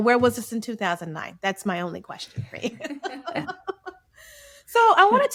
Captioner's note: laughs